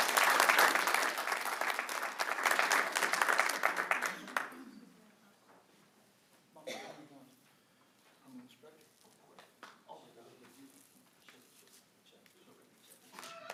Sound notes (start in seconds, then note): 6.8 applause